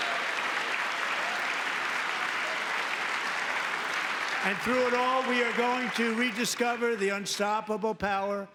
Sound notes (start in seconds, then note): 4.4 applause; 4.4 cheering